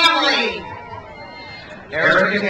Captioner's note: crowd cheers